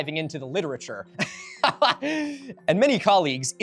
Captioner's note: laughing